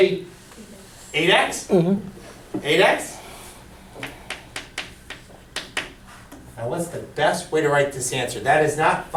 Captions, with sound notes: - 'Cause I'm calling that G. Eight X? - [Voiceover] Mm-hmm. - Eight X? What's the best way to write this answer?